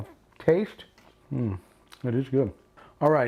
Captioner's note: chewing